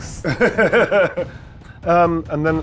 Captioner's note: laughs